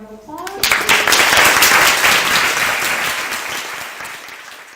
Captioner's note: clapping